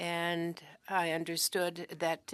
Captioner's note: speaking French